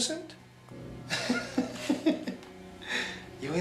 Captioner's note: chuckling